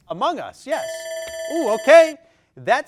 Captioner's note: timer ringing